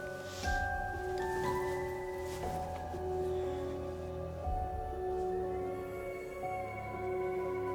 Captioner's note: bedding rustling; pensive music continues